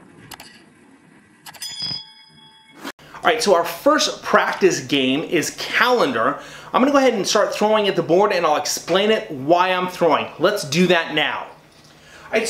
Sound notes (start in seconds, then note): 0.0 explosion bangs; 0.2 clicks; 1.6 chimes